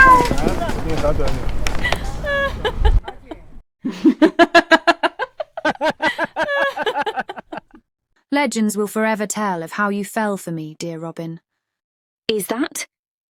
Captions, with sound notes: [a woman laughs, quickly joined by Robin.] Legends will forever tell of how you fell for me, dear Robin. Is that?